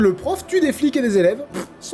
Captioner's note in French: bruit de pet